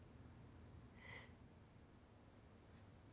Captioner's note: sobbing softly